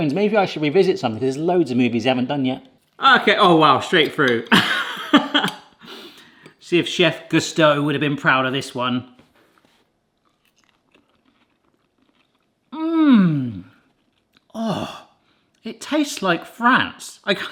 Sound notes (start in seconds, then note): 4.5 chuckles